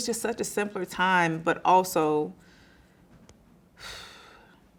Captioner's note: sighing